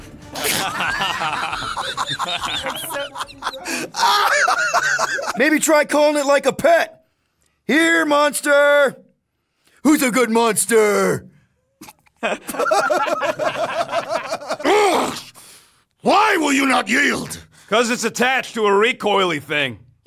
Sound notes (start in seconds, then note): 0.3 laughs; 11.8 laughs